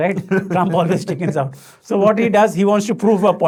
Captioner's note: laughing